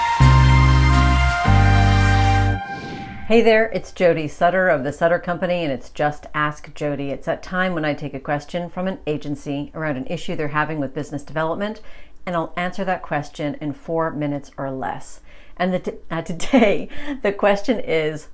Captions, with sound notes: (air whooshing) - Hey there, it's Jody Sutter of The Sutter Company and it's "Just Ask Jody." It's that time when I take a question from an agency around an issue they're having with business development and I'll answer that question in four minutes or less. And today, the question is,